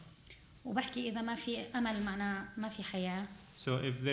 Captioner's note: speaking arabic